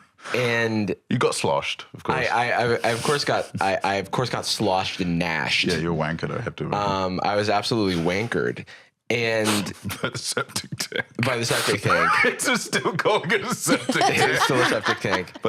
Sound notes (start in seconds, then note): 9.4 laughing